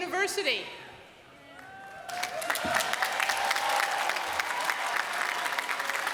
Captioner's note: applause